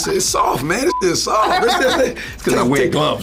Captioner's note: laughs